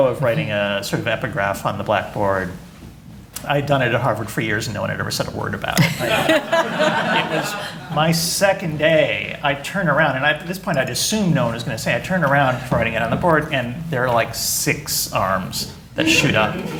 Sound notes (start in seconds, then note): 5.8 laughter